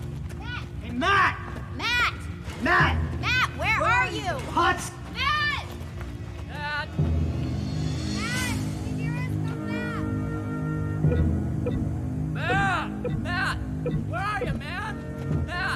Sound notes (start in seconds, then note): 11.6 blipping